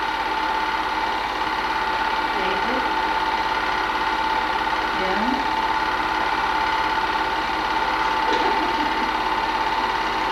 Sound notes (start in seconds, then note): 8.1 laughing